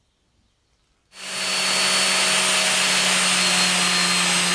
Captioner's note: grinding sound